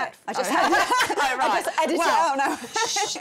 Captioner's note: laughs